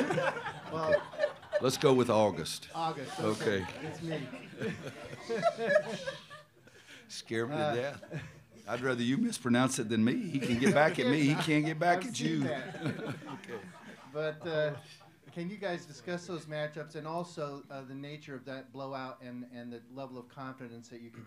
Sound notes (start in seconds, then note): 3.0 laughter